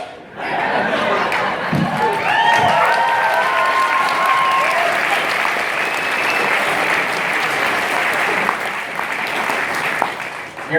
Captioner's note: cheering